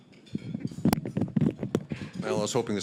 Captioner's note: fumbling microphone